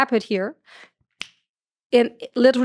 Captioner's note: fingers snap